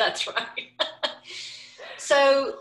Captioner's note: laughing